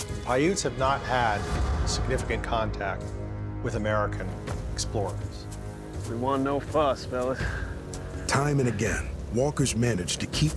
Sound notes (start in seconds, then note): none